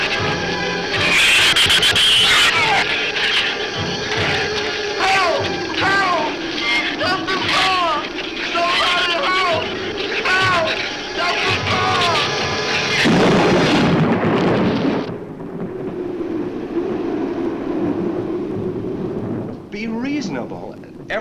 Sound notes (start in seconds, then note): 0.8 shrews screech; 12.8 thunder claps; 15.8 wind howls